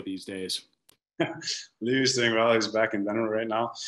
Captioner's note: laughs